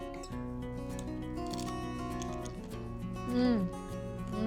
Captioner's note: crunching